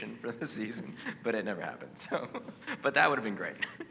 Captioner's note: laughs